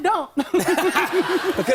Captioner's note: laughter